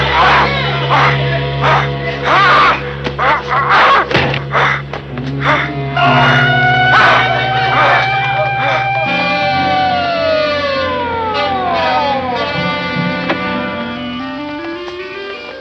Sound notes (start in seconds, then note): 6.4 ominous orchestral music; 6.4 sirens blaring